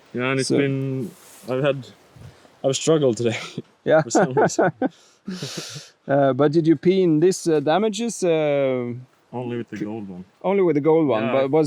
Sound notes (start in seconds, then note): 5.3 laughing